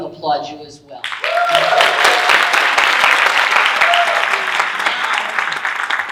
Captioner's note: audience cheering and applauding